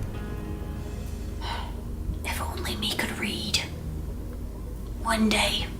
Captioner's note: sigh